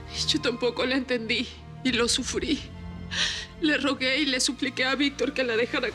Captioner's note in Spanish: sollozos